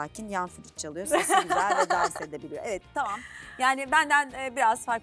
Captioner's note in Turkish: kahkaha